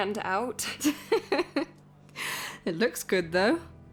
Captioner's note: laughs